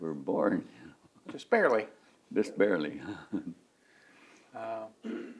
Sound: laughs

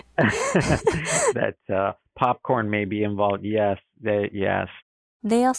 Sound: laughing

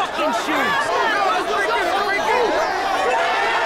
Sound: all yelling

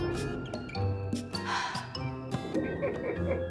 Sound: a very heavy sigh; giggling

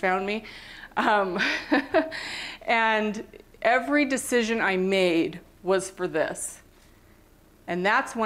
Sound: laughter

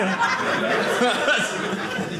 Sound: audience laughing

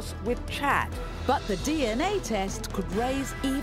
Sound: voiceover

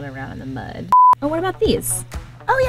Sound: beeps

